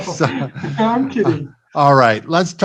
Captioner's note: both giggle